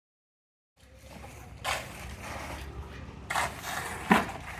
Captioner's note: digging